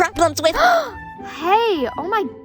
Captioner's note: gasp